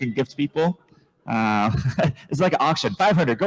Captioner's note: chuckles